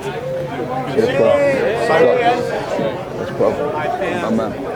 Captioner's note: fans cheering